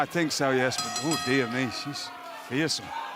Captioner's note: bell ringing